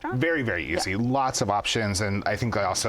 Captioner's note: none